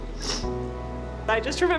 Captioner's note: sniffling